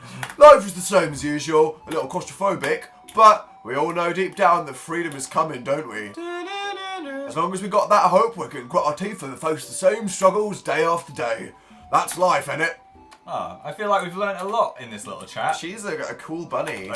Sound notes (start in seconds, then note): 0.1 low voice; 6.1 hums Hunger Games tune